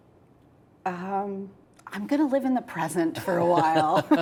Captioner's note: laughs